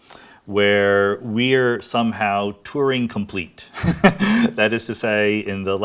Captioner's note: laughs